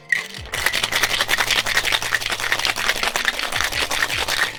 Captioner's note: cocktail bottle shaking